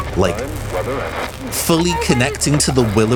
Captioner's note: radio fragments